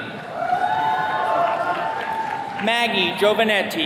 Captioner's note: attendees cheering